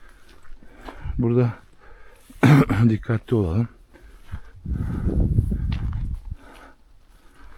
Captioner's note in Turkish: boğazını temizler